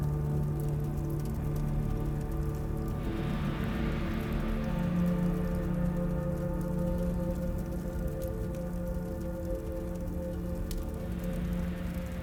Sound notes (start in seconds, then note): 1.0 dramatic music continues; 4.8 fire crackling continues